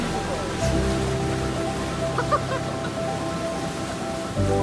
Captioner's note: laughter